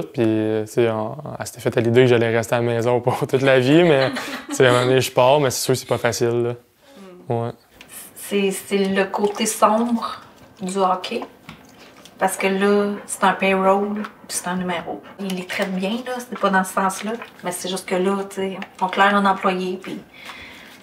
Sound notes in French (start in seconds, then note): 3.5 rires